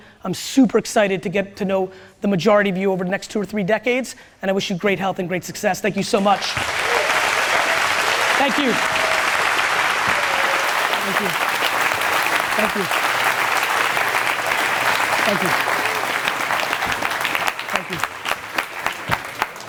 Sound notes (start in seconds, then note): 7.0 audience cheers; 7.0 audience claps